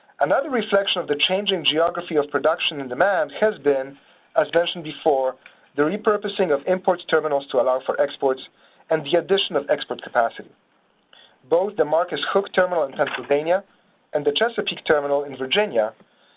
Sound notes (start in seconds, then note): 12.9 pages turning